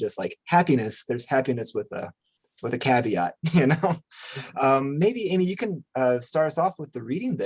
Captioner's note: chuckles